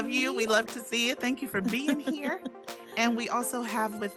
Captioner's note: chuckling